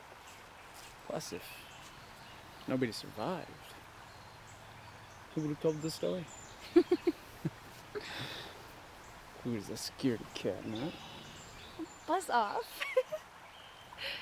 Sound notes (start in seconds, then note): 6.5 laughing